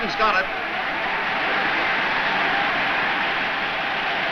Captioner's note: crowd cheers